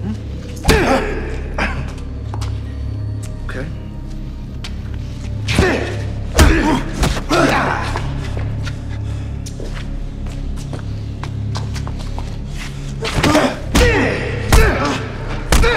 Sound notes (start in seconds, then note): 0.6 man groaning; 6.4 man groaning; 8.0 tense music; 13.0 men groaning